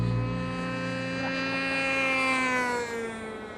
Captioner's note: drone buzzes